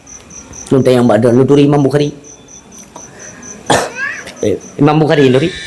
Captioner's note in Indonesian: berdehem